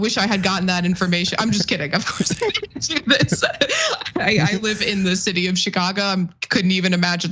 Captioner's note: laugh